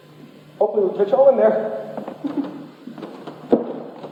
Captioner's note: laughs awkwardly